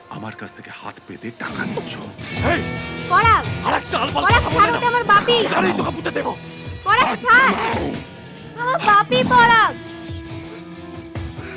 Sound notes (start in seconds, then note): 2.3 random shouting